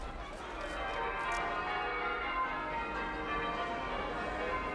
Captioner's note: church bells ringing